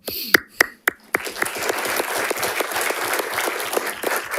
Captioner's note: audience applauding